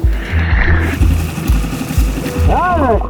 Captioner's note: upbeat instrumental music continues; branches rustling